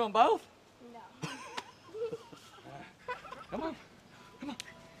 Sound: Jon laughs

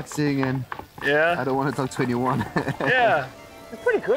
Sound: laughs

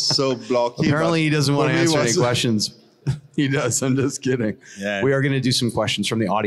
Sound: laughing

